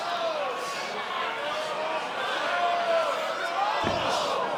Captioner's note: crowd shouting